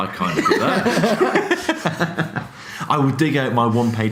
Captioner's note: laughing